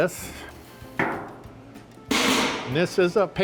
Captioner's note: metal banging and clanking